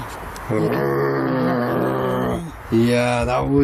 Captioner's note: growling